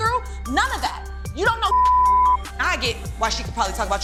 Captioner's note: beep